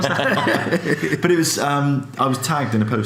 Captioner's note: laughs